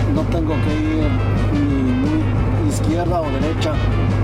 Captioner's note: speaks Spanish